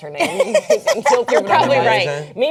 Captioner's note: laughing